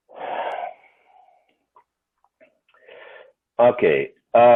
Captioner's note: breaths out heavily